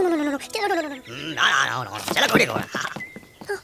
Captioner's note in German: lacht